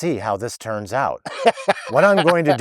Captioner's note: laughing